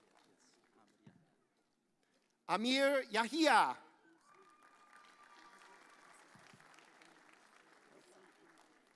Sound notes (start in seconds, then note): 4.2 audience applauds